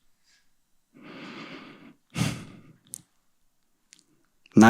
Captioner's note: breathes deeply